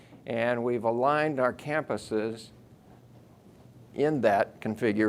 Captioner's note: none